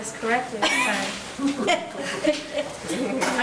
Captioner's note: chuckling